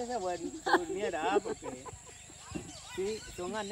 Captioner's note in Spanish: risas